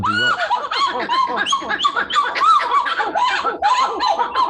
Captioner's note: monkeys singing